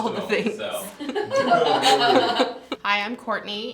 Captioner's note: laughter